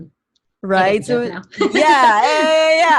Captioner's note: laughs